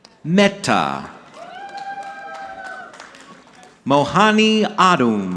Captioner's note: audience clapping